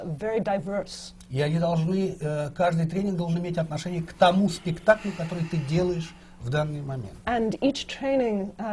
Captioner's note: foreign language not transcribed